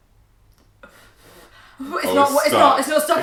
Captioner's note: blows